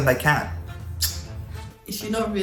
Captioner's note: clicks tongue